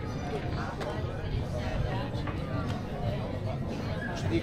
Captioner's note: people chattering